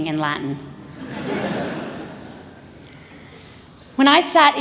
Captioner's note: laughter